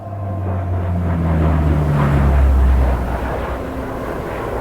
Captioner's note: gentle synth music; plane engines roar